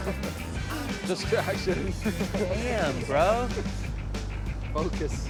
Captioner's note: laughing